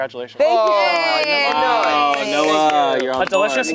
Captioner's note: everyone cheering